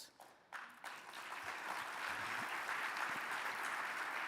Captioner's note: audience claps